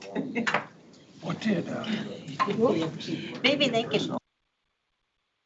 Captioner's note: board members murmuring